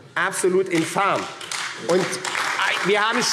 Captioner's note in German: Beifall AfD